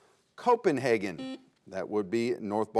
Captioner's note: buzzer sounds